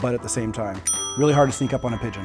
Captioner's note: ding